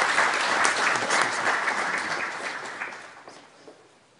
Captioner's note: applause